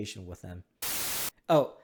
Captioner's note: TV hissing